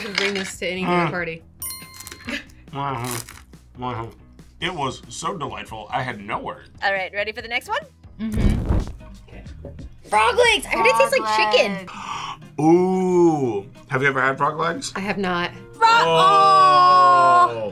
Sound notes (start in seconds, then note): 1.0 groans; 1.6 bell chimes; 2.7 babbles; 11.8 gasps